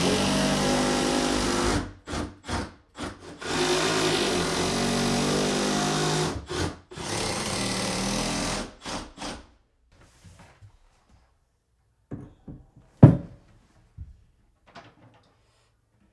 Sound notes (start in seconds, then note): 3.0 drill whirring; 13.0 wood thuds